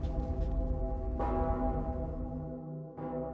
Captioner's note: bell tolling